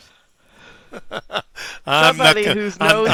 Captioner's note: laughs